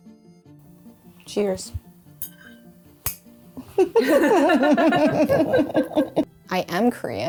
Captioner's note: laughing